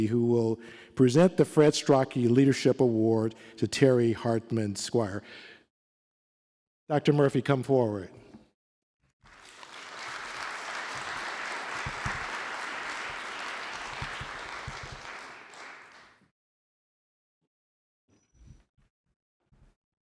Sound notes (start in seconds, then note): 9.2 applause